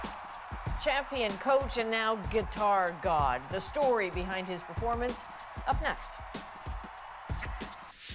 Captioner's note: cheers and Applause